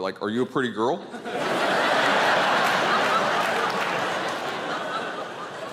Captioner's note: audience laughing